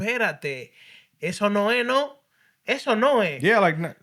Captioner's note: speaking Spanish